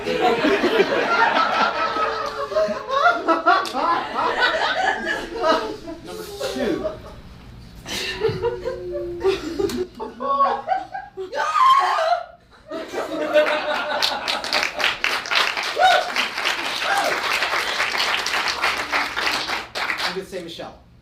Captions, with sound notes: (audience laughs) Number two. (Wilhelm scream) (audience applause) I'm gonna say Michelle.